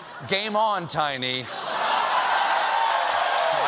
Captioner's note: cheers and applause